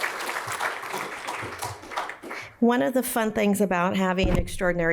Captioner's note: applause